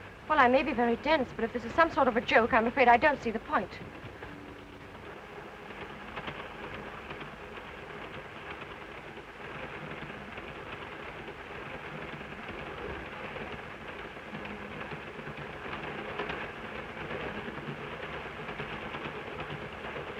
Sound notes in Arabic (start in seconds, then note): 4.8 صوت خشخشة القطار